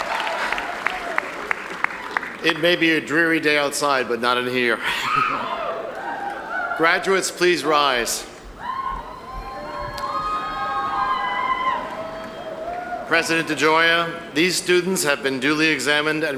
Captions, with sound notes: - It may be a dreary day outside but not in here. (audience cheering) Graduates, please rise. President DeGioia, these students have been duly examined